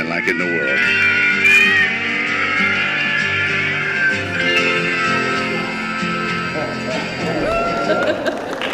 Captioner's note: meowing